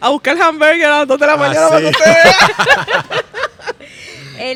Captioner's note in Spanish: carcajadas